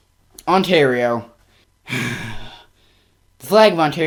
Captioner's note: sighs